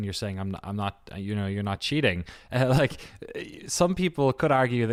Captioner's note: chuckles